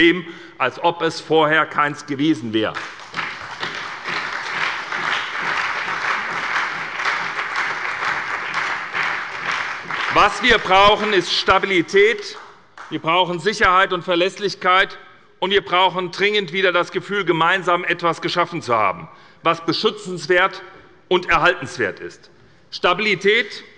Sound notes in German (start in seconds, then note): 2.7 Beifall bei der SPD, dem BÜNDNIS 90/DIE GRÜNEN und der FDP